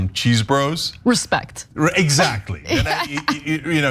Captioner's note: laugh